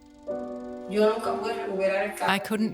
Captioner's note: speaking in Spanish